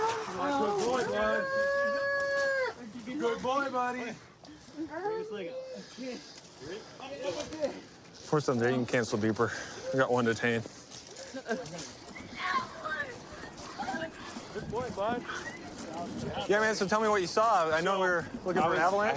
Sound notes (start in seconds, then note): 0.0 wails; 12.4 yelling